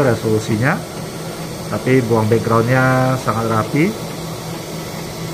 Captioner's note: printer machine noise